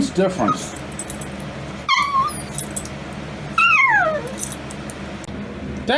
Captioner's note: Ella whimpers and whines